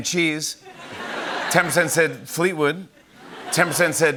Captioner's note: light laughter